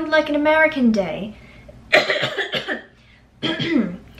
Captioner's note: coughs